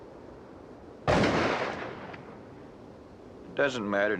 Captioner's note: gun bangs